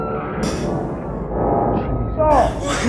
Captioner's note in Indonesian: Bip Stabil